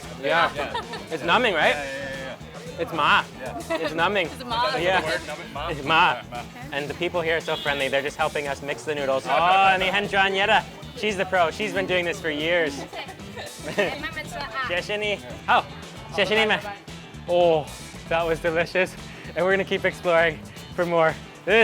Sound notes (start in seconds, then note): 3.1 speaks in a foreign language; 9.4 speaks in a foreign language; 13.8 woman speaks in a foreign language; 14.8 speaks in a foreign language